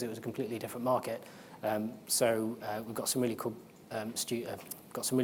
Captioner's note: none